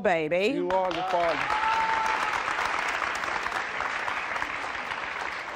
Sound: audience applauding

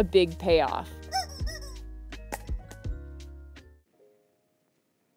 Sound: rubber chicken squawking

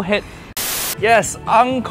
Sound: static hissing

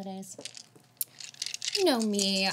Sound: dice rattling

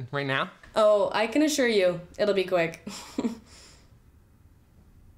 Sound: laughs

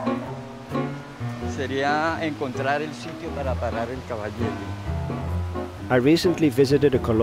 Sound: speaking in foreign language

